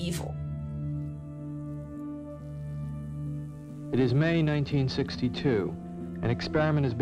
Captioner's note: soundbite of archived recording